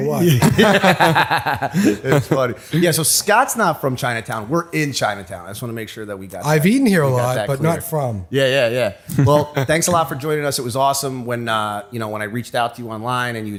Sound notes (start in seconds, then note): 0.3 laughter; 9.0 chuckle